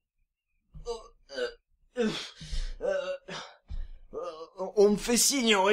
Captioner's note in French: grognements de douleur